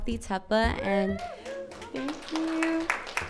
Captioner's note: audience cheers and applauds